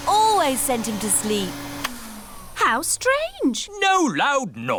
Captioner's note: whirring stops